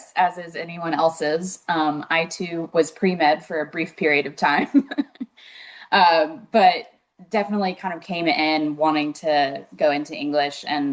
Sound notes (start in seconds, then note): 4.6 chuckles